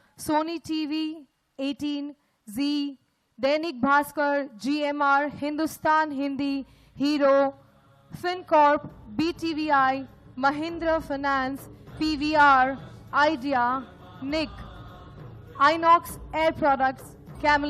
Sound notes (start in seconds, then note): 5.2 speaks in Gujarati – not transcribed; 5.2 speaks in Hindi – not transcribed; 15.7 speaks in Gujarati – not transcribed